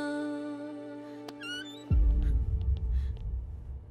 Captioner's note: Door opens